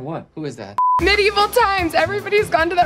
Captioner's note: high pitched beep